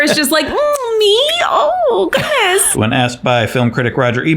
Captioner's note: laughs